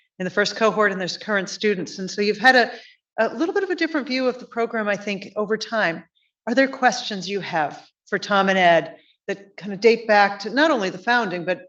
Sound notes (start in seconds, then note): none